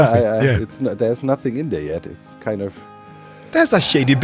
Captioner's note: sighs